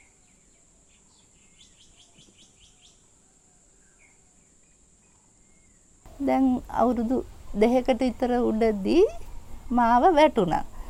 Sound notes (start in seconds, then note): 6.3 speaking in foreign language